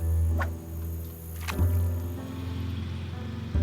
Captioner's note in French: bruissement et éclaboussure